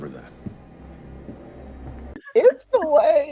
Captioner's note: Homelander's footsteps thudding; laughing